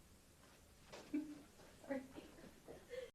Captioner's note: laughter